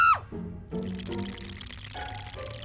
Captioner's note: shivering